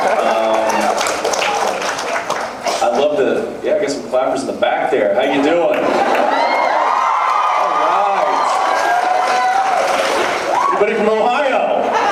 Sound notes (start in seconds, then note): 0.0 cheers, applauds; 0.0 applauds; 5.7 cheers; 8.2 cheers, applauds; 11.6 laughs, a few cheers